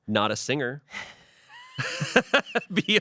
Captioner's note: everyone laughs